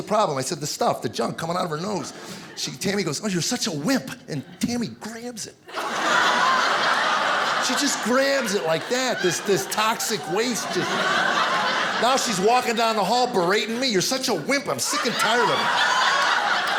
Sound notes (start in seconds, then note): 11.0 audience laughing